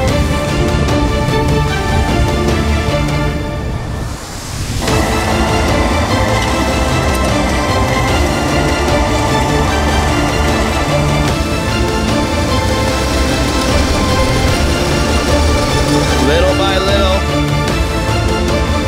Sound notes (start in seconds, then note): 3.4 low rumbling